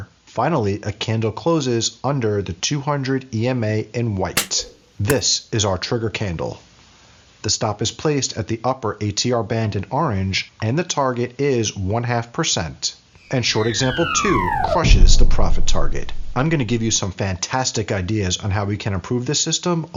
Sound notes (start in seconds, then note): 4.4 snapping; 13.2 explosion; 13.2 rocket wailing